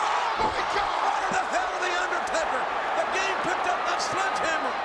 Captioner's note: crowd cheering